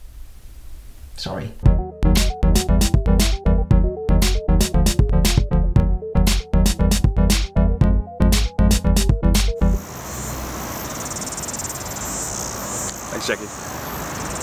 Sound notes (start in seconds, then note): 9.8 the great outdoors: wind! cicadas! distant cars!